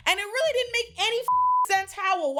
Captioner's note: beep